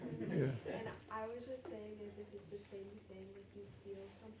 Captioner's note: laughs